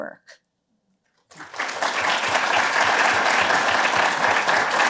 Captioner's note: applause